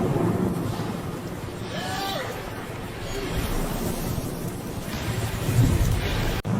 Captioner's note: waves rumbling and splashing